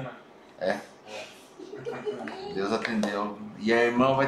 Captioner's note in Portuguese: risos